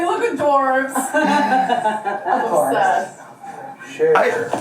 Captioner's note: family laughing